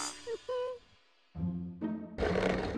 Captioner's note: whimpers